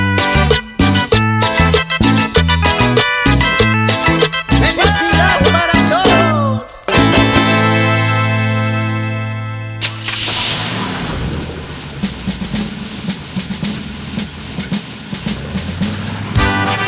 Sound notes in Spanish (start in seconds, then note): 0.0 Música alegre; 9.8 Sonido de motor; 15.1 Música alegre